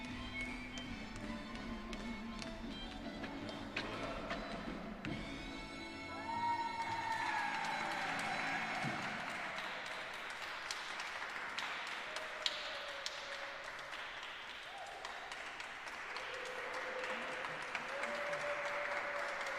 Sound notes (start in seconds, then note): 7.5 applause